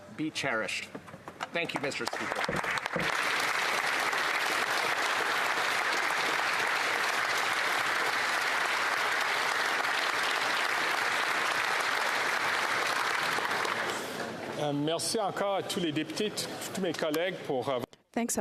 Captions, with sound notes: HIS LIFE AND HIS LEGACY OF LOVE AND COMMITMENT WILL FOREVER BE CHERISHED. THANK YOU, Mr. SPEAKER. [ Applause ]